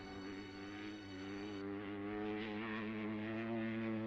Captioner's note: engine revving